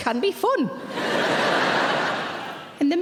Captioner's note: audience laughing